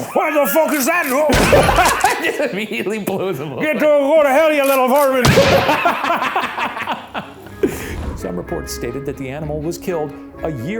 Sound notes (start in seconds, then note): 1.0 imitates gun; 1.1 gun fires; 5.2 gun fires; 5.4 both laughing